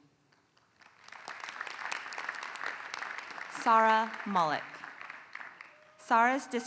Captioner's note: applause